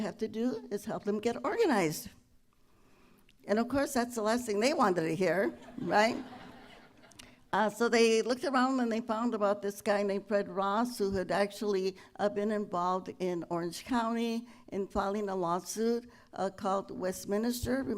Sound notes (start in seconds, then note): 5.5 laughter